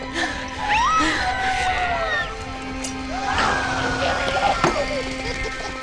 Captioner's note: puppets continue laughing; suspenseful music